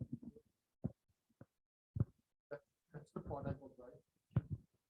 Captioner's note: microphone Interference